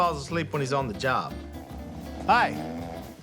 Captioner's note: snoring